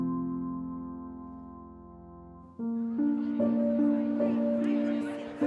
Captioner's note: crowd chatter